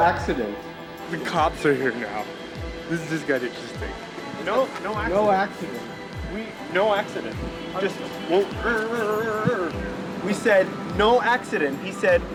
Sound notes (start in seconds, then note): 8.8 imitates failing engine